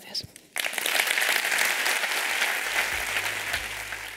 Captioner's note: applause